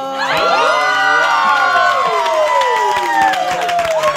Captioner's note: all cheering